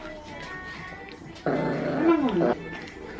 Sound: growling

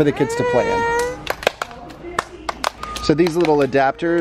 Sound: clapping

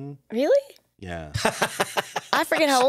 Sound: laughs

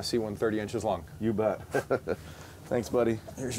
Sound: laughing

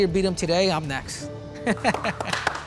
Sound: laughs; applause

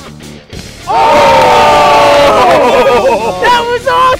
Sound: all shouting

